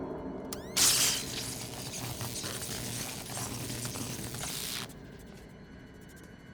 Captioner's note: taser whirs; electricity crackling